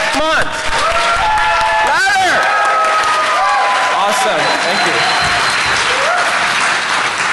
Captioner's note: applause